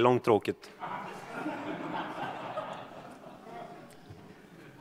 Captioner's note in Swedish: Skratt